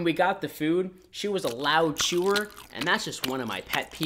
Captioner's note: chewing